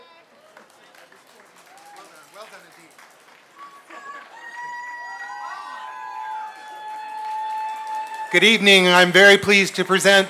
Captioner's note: applause